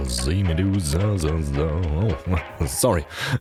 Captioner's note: happy humming